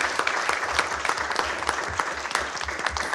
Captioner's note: applause